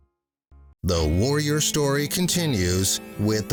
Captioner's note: voiceover